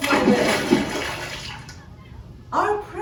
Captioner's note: water splashing